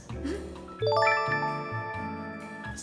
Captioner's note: chime